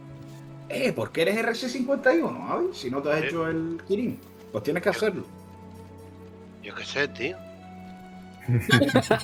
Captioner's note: laughs